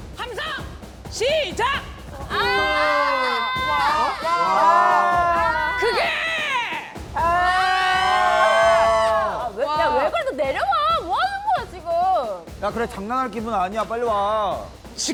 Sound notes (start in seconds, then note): 7.0 everyone’s individual cheering sounds